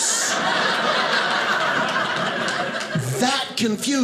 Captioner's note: audience laughing